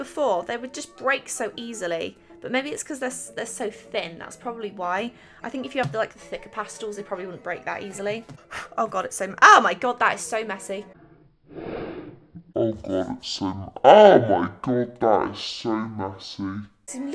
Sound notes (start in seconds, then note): 11.4 slow motion, breathes heavily